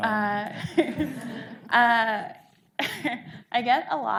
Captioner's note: audience laughing